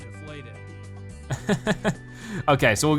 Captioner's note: laughs